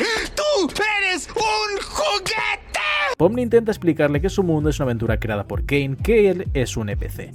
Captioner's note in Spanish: grito